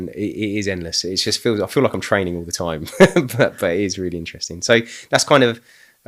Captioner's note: laughing